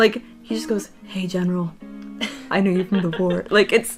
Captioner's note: whispering